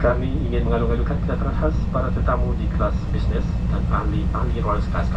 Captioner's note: in-flight announcement in Malay